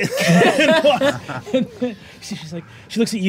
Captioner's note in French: rires